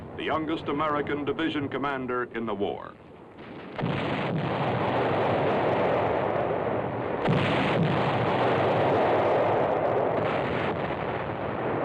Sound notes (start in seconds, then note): 3.6 tank fire and explosions